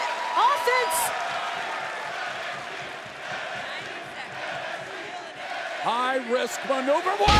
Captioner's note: crowd cheering